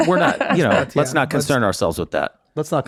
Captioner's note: laughing